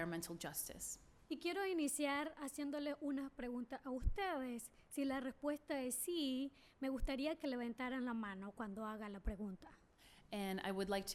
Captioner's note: speaking spanish